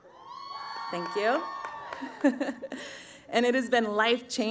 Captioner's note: cheering